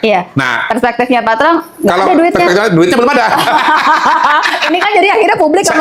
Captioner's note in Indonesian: tertawa